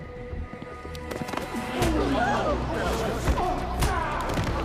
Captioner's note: crowd gasping